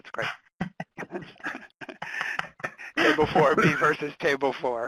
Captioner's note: laugh